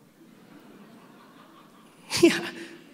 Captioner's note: audience laughing